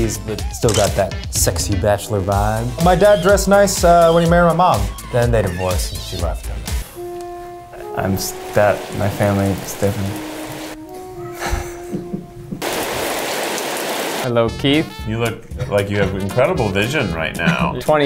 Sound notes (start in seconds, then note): 7.8 rain dripping; 7.9 somber music; 12.6 rain dripping; 12.7 somber music